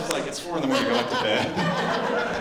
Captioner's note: laughter